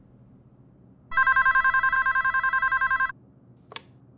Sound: phone ringing

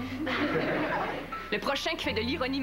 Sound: Rires

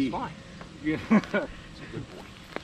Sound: chuckles

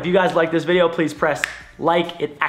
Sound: fingers snap

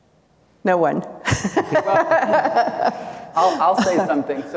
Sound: laughs; attendees chuckle

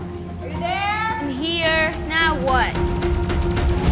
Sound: shouts

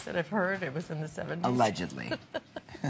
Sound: laughter

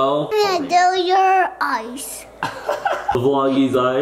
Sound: laughs

